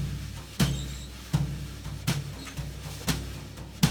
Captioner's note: rod squeaks; percussion music continues